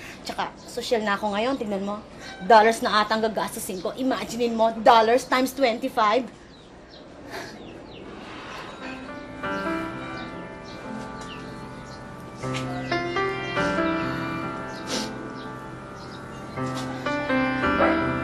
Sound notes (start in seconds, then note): 14.6 Jasmin sniffles